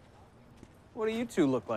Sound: footsteps clomping

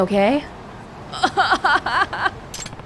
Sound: 'sobbing'

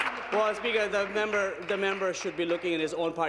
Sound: applause

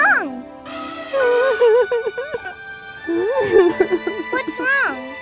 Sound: crying

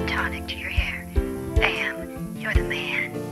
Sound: sexy female robo caller

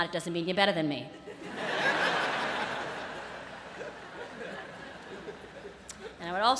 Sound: laughter

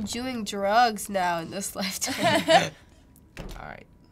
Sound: laugh

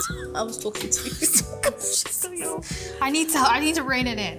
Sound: scoffing

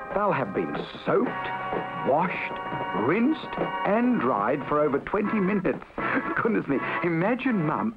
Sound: laughs

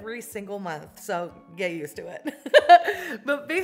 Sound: laughs

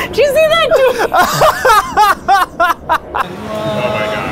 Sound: laughing

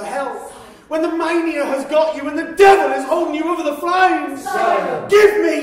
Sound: shouting

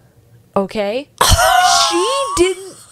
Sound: laughs

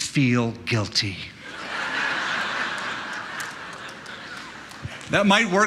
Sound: laughter

